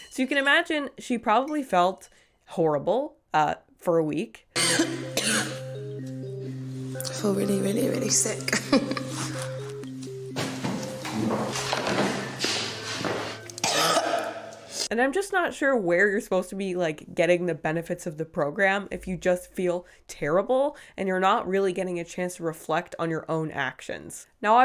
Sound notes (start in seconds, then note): 4.5 woman coughing; 8.4 woman laughing; 13.7 woman gagging